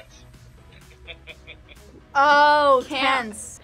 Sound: laughs

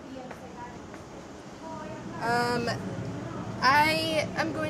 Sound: people talking in background

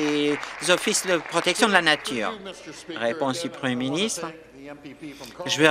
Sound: applause

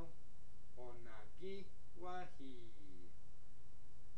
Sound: speaking Mohawk

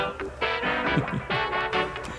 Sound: laughter

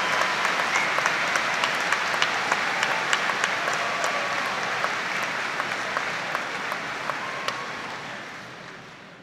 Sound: audience applauding

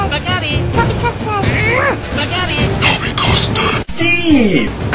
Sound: demonic voice

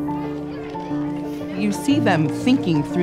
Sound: children talking

